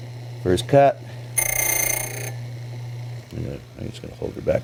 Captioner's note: drilling sound